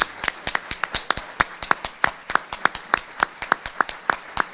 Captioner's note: audience applauding